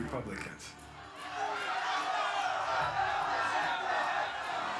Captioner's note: people shouting